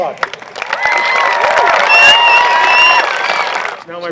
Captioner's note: applause